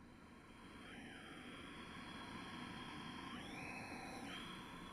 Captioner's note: breathes